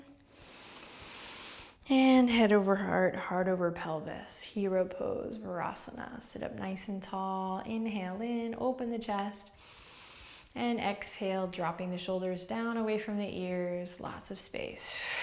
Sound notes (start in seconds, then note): 0.3 inhales; 9.4 inhales; 15.0 exhales